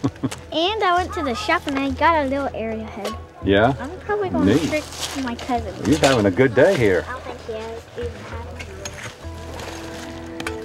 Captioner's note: laughter